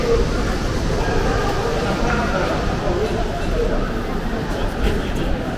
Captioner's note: high-speed train